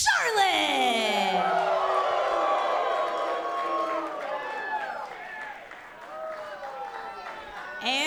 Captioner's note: cheers & applause